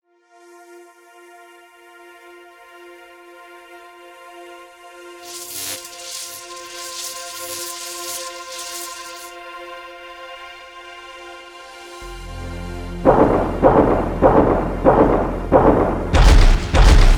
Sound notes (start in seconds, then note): 0.3 calm ambient music; 5.2 electricity crackling; 13.1 steps thudding